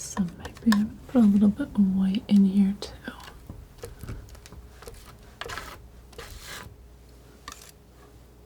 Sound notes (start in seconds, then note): 3.2 scratching